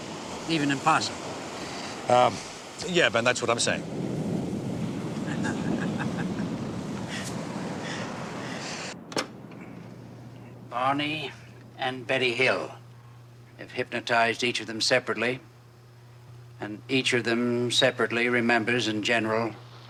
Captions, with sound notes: even impossible? - Er, yeah Ben, that's what I'm saying. [laughs] [tape machine clicks] - Barney and Betty Hill. I've hypnotized each of them separately. And each of them separately remembers in general